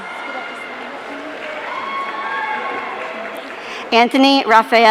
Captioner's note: audience cheering